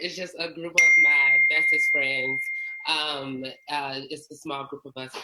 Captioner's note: beep